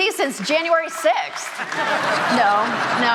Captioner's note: audience laughing